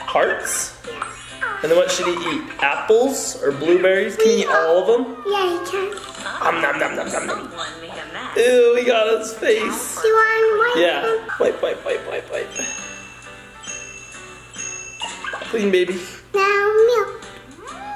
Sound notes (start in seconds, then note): 0.9 baby giggle; 12.5 bell chime; 15.0 baby giggle